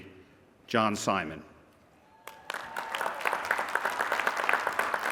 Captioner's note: applause